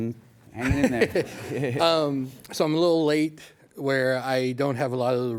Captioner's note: laughs